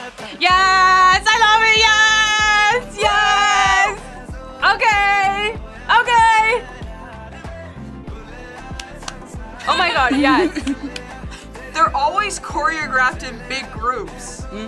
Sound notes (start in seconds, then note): 7.1 upbeat music; 9.6 both laugh